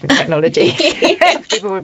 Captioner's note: both laugh